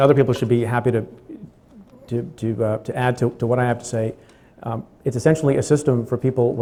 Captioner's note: stutters; stutters